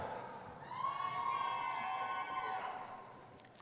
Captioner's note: cheering